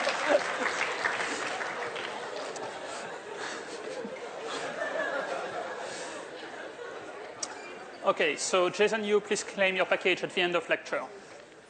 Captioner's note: applause